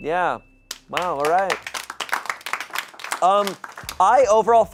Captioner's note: audience applauding